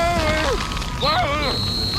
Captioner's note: blows whistle